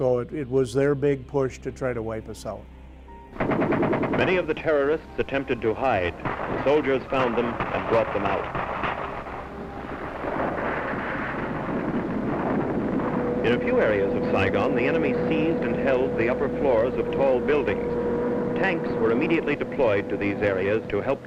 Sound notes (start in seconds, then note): 3.7 gun shots; 5.2 voiceover